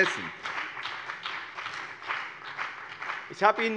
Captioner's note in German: Beifall bei dem BÜNDNIS 90/DIE GRÜNEN und der CDU